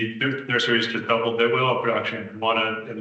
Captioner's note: attendee speaking softly